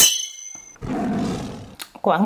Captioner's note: roar